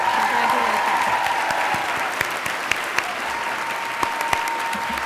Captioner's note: graduates cheering; graduates clapping